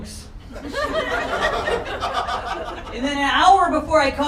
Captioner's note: crowd laughter